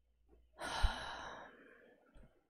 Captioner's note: sighs